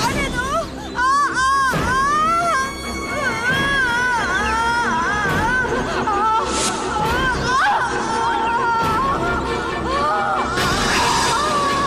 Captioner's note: groans